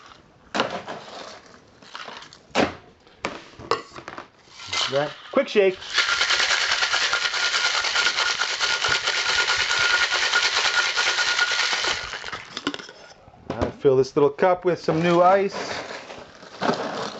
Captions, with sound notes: (ice clinking into glass) Right, quick shake. (ice rattling in shaker) Fill this little cup with some new ice.